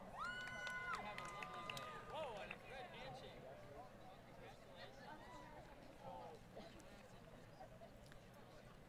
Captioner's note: crowd Cheering